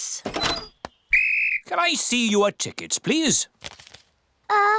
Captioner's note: blows whistle